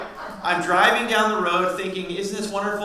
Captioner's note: audience laughs